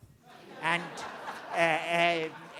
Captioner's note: crowd Laughing